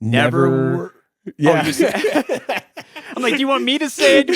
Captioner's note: both laugh